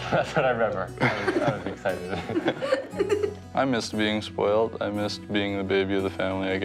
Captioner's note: laughter